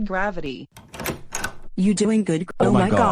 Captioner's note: door open